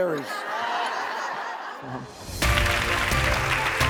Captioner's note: applause